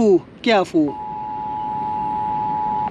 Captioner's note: alarm sounds